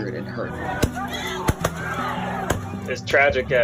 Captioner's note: gunshots